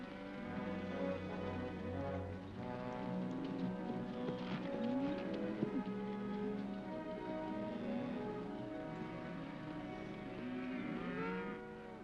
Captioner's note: soft music; cattle moo